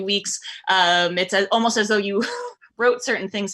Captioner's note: chuckles